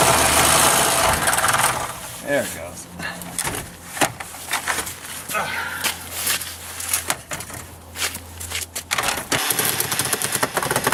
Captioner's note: sawing; more sawing